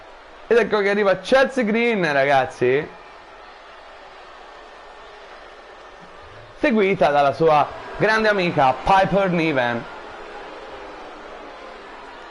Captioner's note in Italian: Applauso